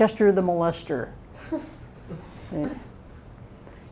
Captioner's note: laughter